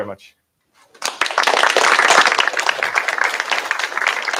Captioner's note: applause